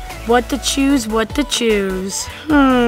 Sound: none

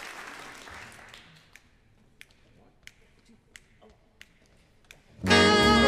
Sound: conductor snapping fingers

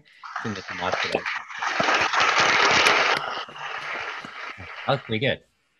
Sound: applause

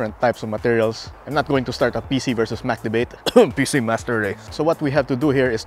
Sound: cough

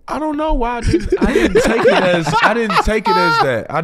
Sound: all laughing

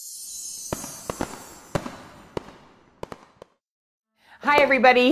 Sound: fireworks bursting

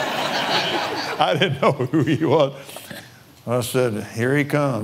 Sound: laughs

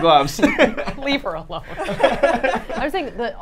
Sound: laughing

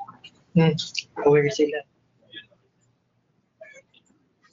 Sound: audio skipping

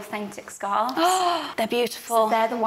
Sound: gasps

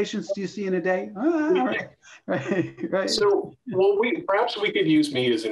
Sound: laughter

